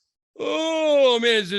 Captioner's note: yawn